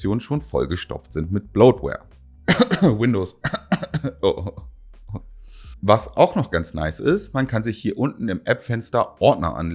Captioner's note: cough